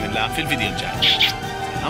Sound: peace kisses

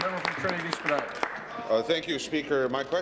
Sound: applause

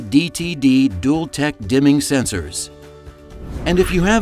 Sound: screen swooshes

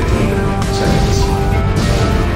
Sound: distorted Announcement Chime; laser explosion

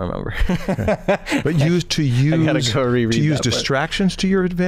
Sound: chuckle

